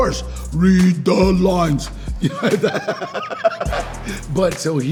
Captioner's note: laughs